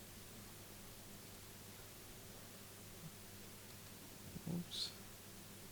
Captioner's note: keyboard clicking